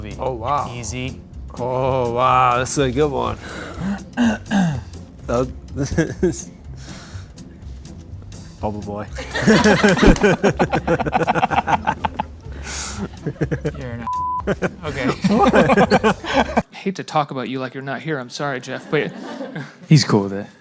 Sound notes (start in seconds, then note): 3.4 clears throat; 10.7 laughing